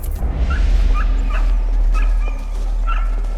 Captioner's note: dogs barking